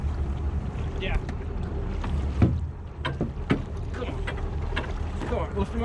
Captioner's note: fish splashing